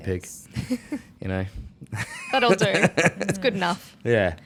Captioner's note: laughs